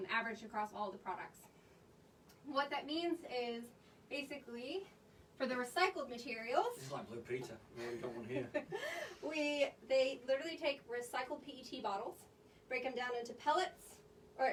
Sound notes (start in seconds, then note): 7.8 chuckles